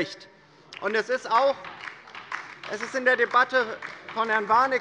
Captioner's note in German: Beifall bei der LINKEN